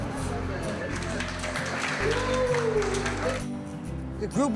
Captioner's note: audience clapping